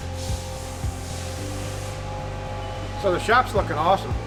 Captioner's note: machines whirring